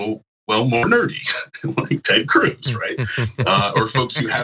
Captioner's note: laugh